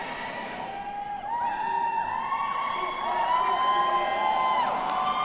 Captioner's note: students cheering